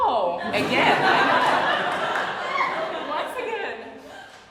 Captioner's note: audience laughs